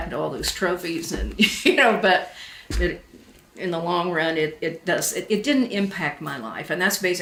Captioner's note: laughs to self